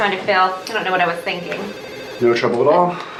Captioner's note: phone ringing